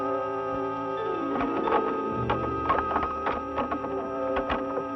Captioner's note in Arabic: قعقعة